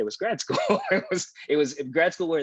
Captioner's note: laughs